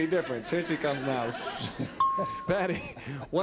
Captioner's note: ding